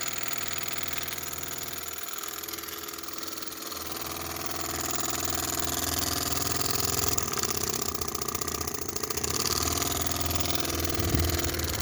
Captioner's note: engine